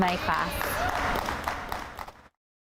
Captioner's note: applause